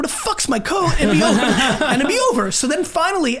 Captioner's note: group laughs